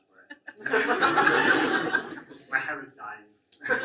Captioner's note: audience laughs